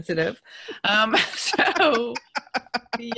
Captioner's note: laughs